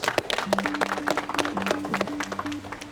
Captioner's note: applause